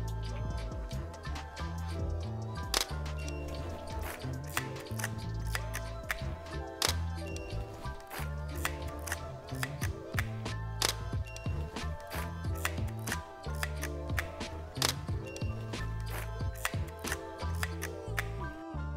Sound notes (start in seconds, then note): 2.7 camera shutter clicks; 6.8 camera shutter clicks